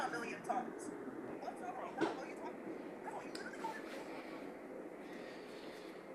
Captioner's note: arguing